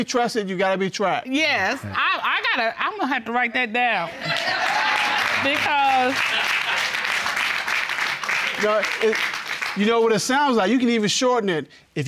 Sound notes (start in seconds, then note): 6.4 audience applauding